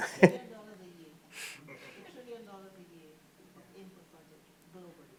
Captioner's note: participant faintly speaking